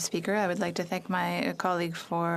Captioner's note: speaking French